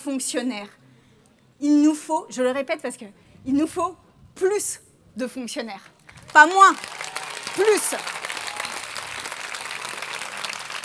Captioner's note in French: Applaudissements